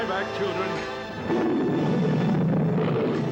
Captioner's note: roars mightily